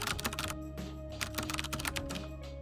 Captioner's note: keyboard clacking